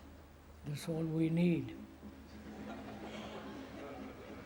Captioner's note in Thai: เสียงรบกวน